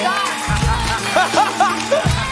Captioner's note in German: Gelächter